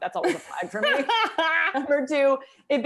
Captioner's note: laughter